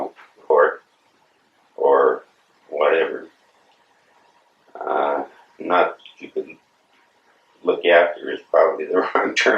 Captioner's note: laughs